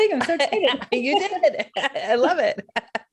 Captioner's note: laughs